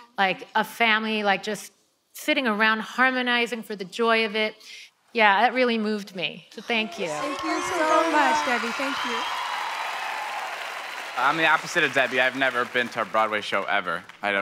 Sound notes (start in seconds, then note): 9.7 audience cheering; 9.7 audience clapping